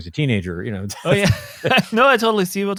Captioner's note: both laughing